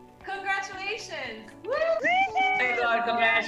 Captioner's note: cheering